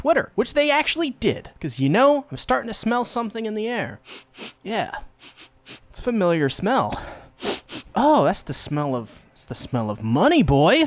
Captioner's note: sniff sniff; sniff